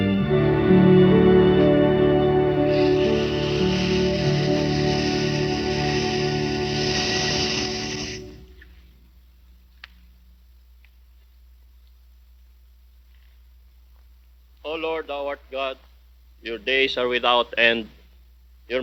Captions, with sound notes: (snake hissing) - Oh Lord, our God, your days are without end,